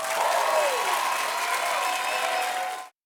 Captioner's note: audience applauding